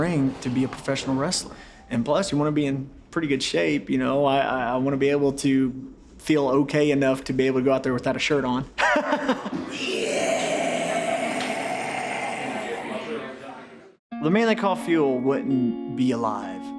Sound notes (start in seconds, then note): 8.9 laughs